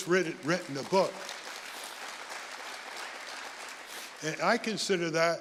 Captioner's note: audience applauding